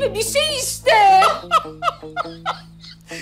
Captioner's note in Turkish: Gülme sesi